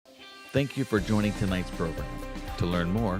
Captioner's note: voiceover